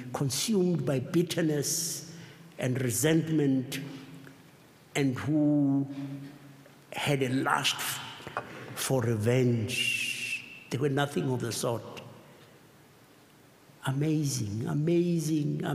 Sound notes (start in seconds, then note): none